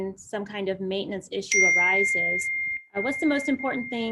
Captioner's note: bell chimes